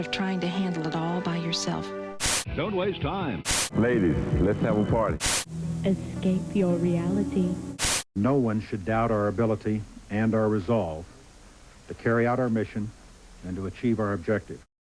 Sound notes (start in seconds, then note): 1.8 static; 5.2 static; 7.8 static; 14.7 static